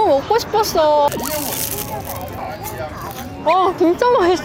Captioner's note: crunchy ASMR